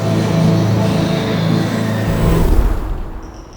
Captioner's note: screeching